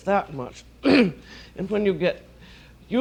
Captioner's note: clears throat